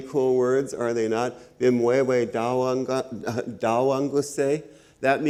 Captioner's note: speaks Ojibwe